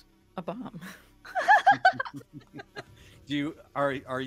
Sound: all laugh

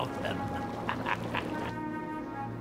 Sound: cackles

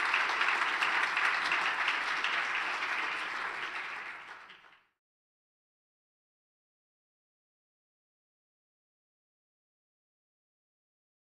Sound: applause

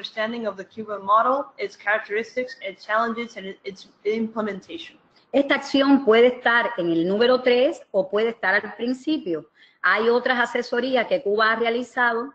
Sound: speaking another language

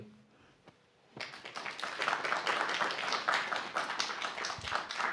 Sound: applause

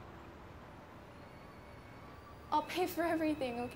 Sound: kettle whistles

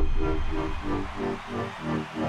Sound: crowd cheering

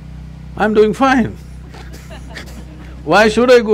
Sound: laughter

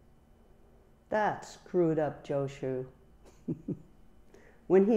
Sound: chuckles

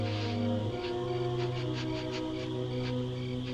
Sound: sniffing

